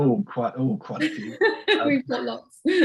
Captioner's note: laughs